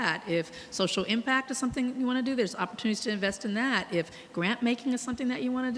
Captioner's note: none